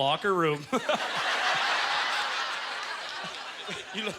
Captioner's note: audience laughter